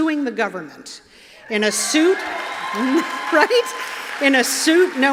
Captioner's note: cheers